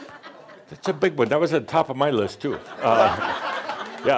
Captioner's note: more laughter